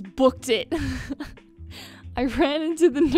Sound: chuckles

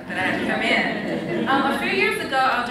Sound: laughs

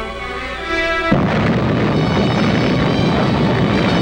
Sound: bomb blasting

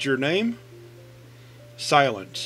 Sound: silence

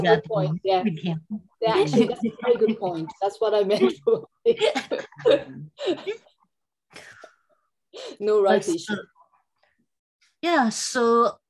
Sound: laughing

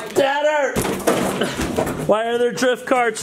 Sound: crashing sound

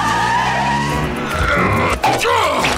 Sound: laughing, tires squealing; grunting

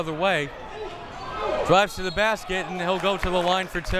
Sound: whistle tweeting

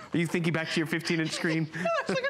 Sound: laughter

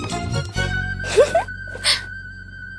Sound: giggling

